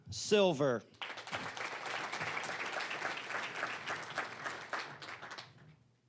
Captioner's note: applause